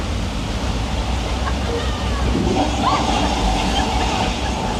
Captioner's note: water rushing